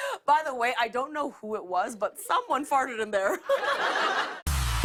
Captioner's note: laughter